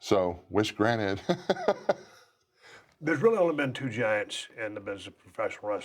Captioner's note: laugh